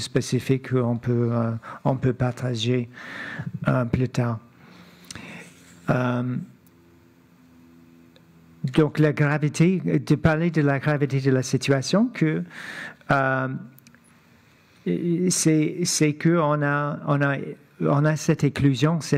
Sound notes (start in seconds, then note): 1.7 speaking French